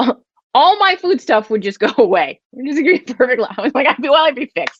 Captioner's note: laughs